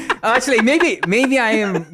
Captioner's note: laughs